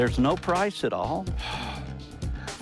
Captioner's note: sighs